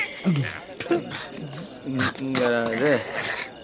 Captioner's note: spluttering